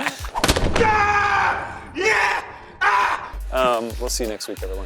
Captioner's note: laughing; screaming